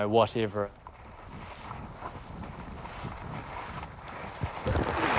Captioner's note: skiing sounds